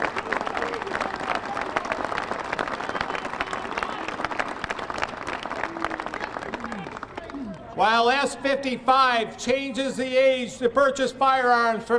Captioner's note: applause